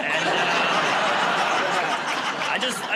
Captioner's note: laughter